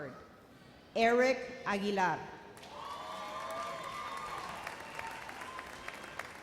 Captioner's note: audience cheers